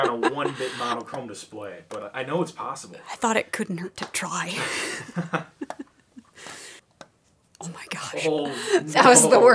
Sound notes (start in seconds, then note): 4.6 laughing